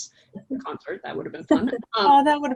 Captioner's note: laughter